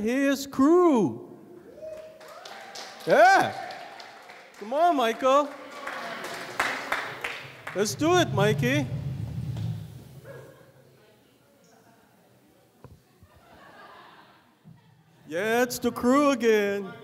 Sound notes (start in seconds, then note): 1.7 audience cheering; 13.3 audience laughing